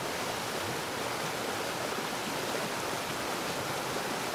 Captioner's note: nature sounds